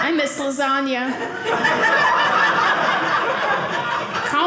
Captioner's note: audience laughing